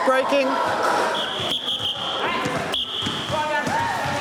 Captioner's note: blows whistle repeatedly